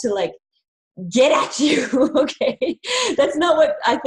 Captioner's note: laughing